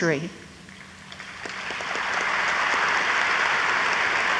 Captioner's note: audience applauds